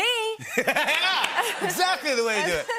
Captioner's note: laughter